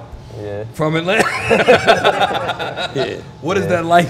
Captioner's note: laughs